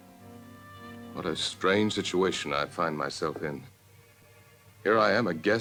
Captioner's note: voiceover